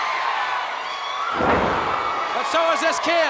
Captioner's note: crowd cheering; ring floor thudding